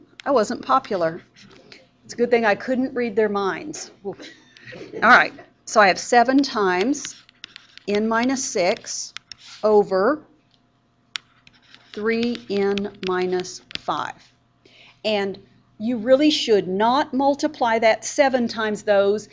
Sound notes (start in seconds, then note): 4.0 giggles in the room